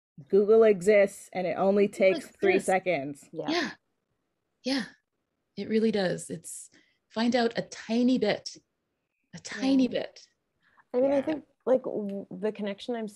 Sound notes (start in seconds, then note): none